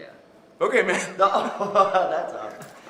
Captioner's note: laughter